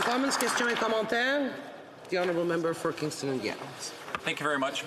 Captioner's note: applause